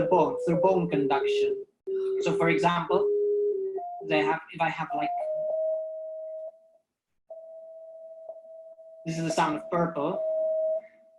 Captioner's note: frequency sounds